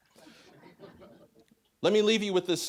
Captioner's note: scattered laughing